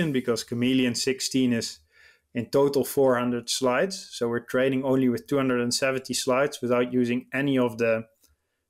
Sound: none

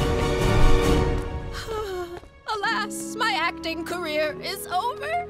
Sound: groaning

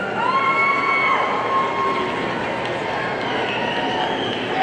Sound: audience cheering

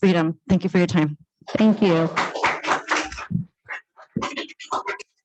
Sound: applause

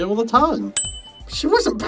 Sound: SFX: Shiny

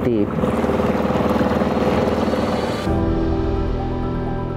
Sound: water gurgling; piano tinkling

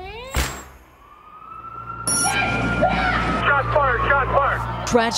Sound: police sirens and people shouting

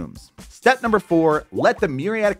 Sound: graphics popping

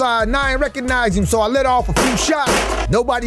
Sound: gun shots banging

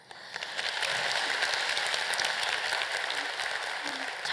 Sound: applause

